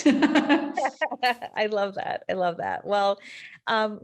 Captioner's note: both laughing